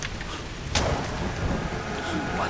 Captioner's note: thunder crashes